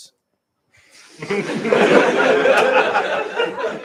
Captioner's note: laughter